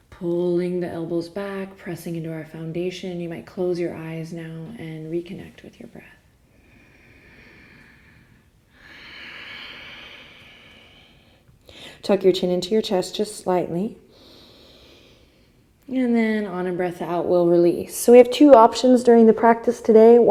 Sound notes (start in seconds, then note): 6.5 deep breath; 14.1 inhale